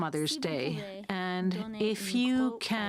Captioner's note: speaking French